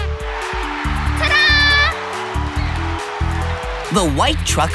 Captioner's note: cheering